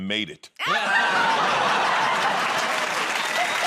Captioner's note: laughter